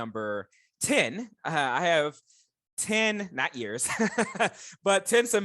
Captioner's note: laughing